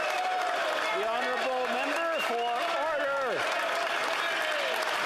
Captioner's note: some Applause; yelling